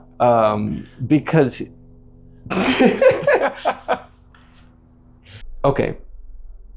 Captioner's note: laughter